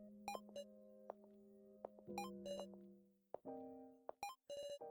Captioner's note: walking sounds